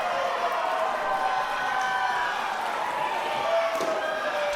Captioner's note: audience cheering